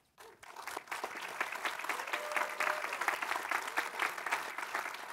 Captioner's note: audience applauding